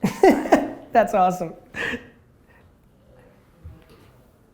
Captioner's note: laughs